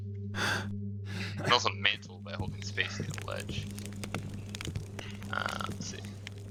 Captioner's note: Garrett heaves, like he's out of breath